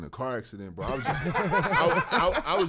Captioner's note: laughing